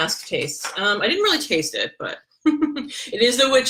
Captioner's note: laughs